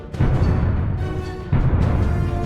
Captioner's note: boom